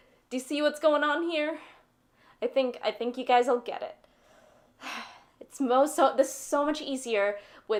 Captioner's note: sigh